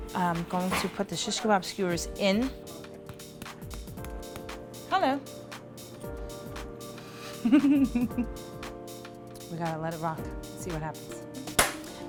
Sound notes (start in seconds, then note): 7.4 giggles